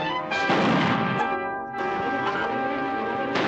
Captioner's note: chickens clucking